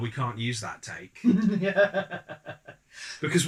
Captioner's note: evil laugh